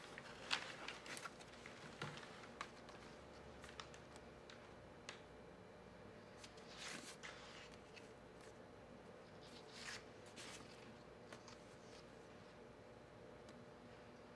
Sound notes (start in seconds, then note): 6.9 pictures shuffling